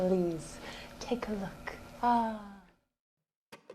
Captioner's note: sighs